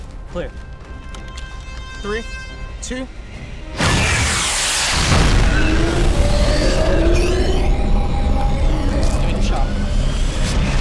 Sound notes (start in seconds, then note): 3.8 boom